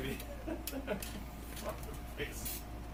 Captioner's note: laughs